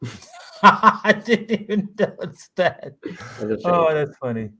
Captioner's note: laughs